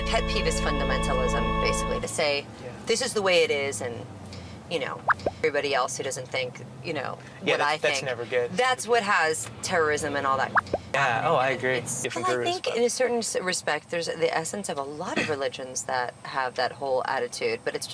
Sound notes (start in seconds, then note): 5.2 beep; 10.8 beep